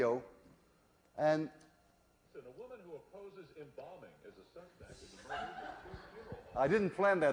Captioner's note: radio; laughter